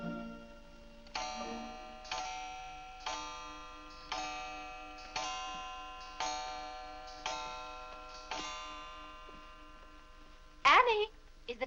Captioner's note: clock chimes